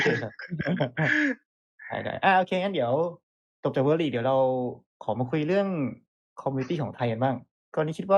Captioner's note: laughs